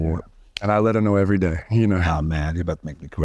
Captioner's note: lightly tapping hand